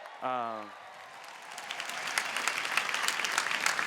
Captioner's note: applause